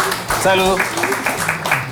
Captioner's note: applause